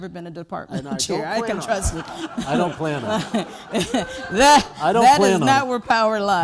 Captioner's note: laughter